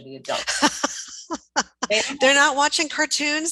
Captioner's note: laughs